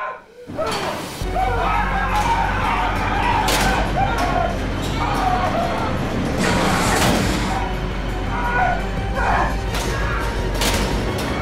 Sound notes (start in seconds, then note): 0.6 metal clanking